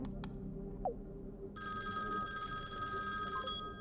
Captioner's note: tapping; phone ringing; message tone